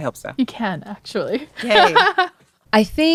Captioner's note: laughter